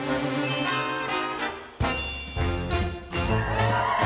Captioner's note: dinging sounds; crowd cheering